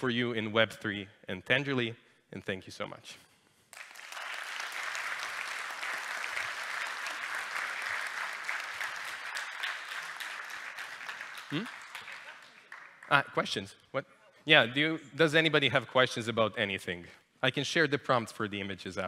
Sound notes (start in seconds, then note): 3.7 applause